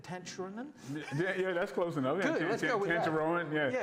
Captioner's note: laughs